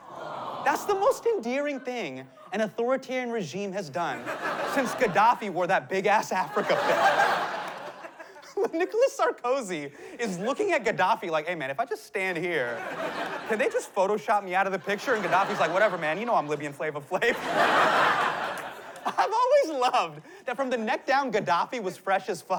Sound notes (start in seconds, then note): 17.2 laughter